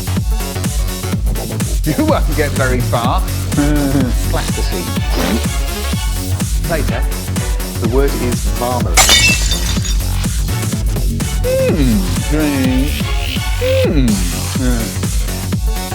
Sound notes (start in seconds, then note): 9.0 glass breaking